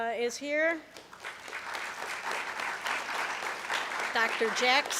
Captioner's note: applause